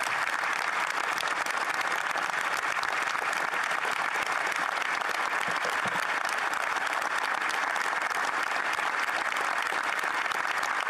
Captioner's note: applause